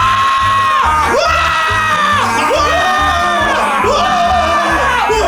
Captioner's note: all scream; screams